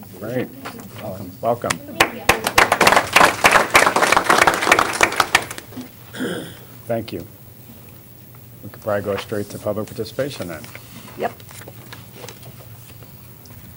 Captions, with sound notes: >> WELCOME. [ APPLAUSE ] THANK YOU. ALRIGHT, WE'LL GO STRAIGHT TO PUBLIC PARTICIPATION THEN.